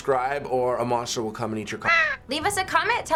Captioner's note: caw!